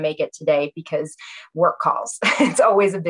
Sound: laughs

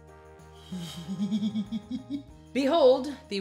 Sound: giggles mischievously

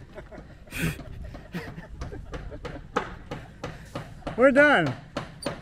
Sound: laughing; hammer banging continues

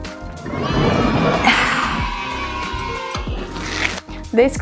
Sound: cheer

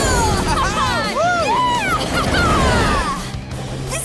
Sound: cheering

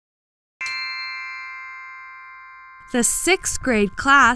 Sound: bells chime

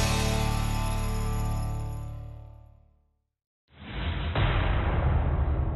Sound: metallic clash

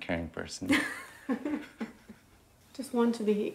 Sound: both chuckling

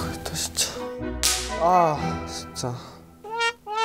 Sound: annoying bang snaps

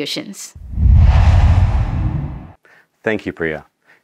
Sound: logo swooshes

